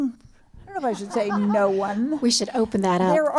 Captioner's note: laughter